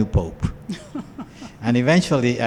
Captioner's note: laughs